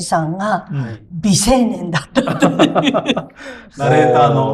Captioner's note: laughs